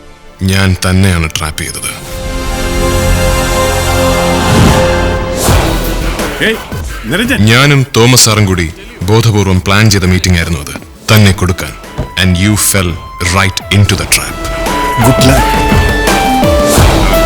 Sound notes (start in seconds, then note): none